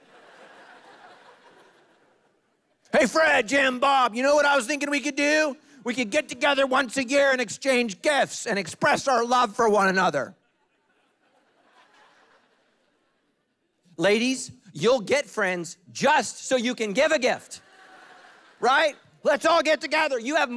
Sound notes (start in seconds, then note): 0.0 congregation laughing; 10.4 congregation laughing; 17.6 congregation laughing